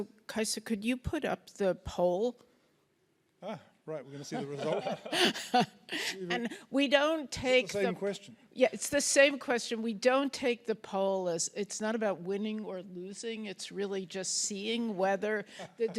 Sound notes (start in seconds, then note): 4.2 laughs; 15.5 laughs